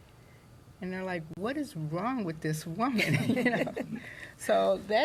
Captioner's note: laughter